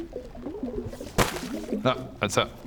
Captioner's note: boop